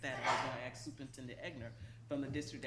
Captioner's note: coughing drowns out speaker